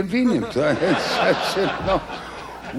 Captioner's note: crowd laughs